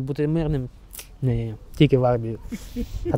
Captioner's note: laughter